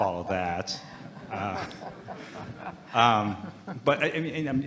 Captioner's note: audience laughing